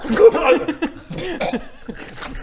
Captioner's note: chokes